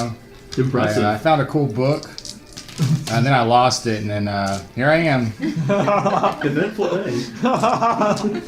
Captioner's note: laughter